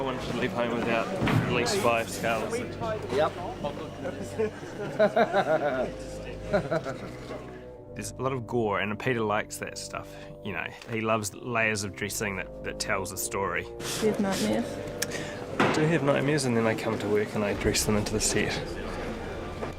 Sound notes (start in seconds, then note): 4.2 laughing